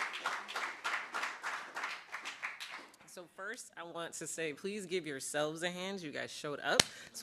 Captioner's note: applause